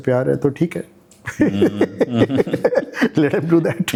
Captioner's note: laugh